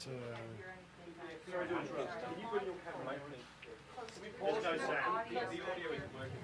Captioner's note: crowd talking over each other